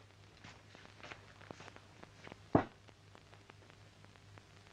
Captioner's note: floor pattering